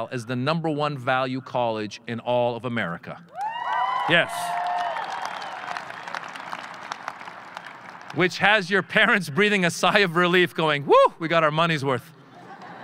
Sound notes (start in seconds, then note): 3.3 audience cheering; 12.2 audience laughing